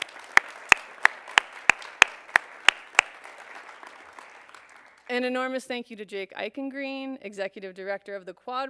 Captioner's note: applause